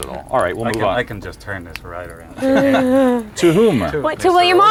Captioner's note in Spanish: Laughs